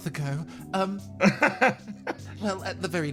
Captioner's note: laugh